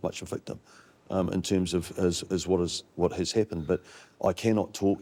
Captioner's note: stammers